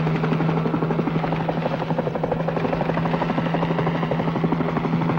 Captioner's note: helicopter roaring continues